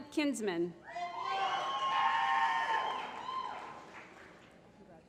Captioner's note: applause